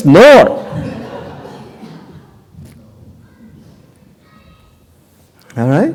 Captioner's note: laughter